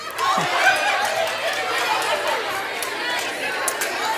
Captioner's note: participants cheering